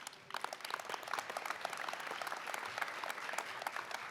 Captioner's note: applause